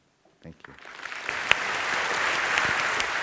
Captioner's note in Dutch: Applaus